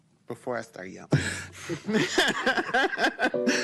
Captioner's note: laughs